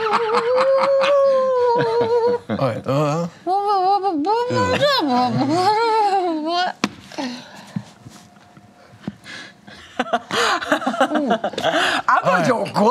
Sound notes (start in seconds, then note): 0.0 laughing; 3.9 grunting